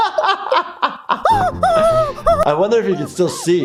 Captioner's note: laughing; Toothy yelping